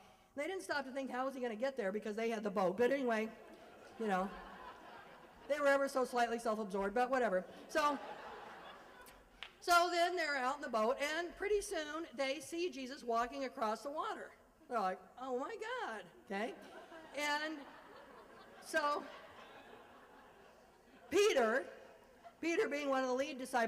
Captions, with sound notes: they didn't stop to think, how's he gonna get there because they had the boat, but anyway [laughter] ya know, they were ever so slightly self-absorbed, but whatever. So then they are out in the boat and pretty soon they see Jesus walking across the water. They're like, oh my god, okay [laugher] so, Peter, Peter being one of the lead disciples. Peter is